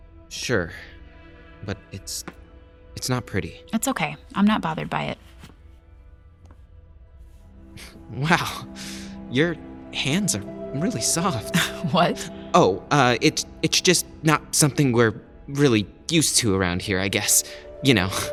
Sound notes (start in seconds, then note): 5.2 rustling of a glove being removed